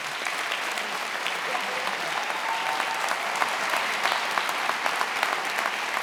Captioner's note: attendees applauding and cheering